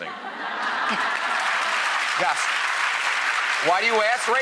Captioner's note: applause